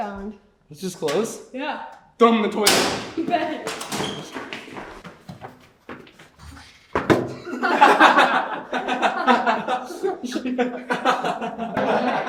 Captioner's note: children laughing